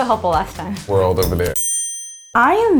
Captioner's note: bell dings